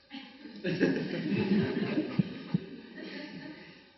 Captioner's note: audience laughs